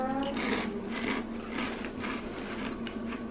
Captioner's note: chewing